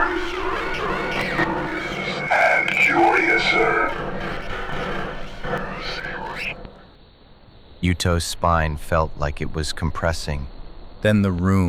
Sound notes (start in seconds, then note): 0.0 measured, rising dread; 4.0 warped, distorted, slow